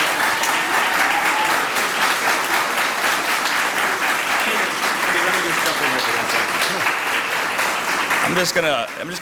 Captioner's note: applause